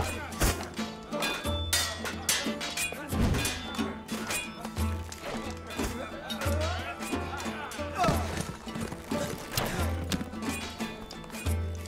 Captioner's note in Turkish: Kılıç sesleri